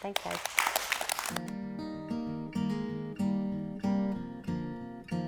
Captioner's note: audience applauding